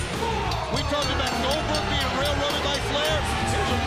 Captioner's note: bell ringing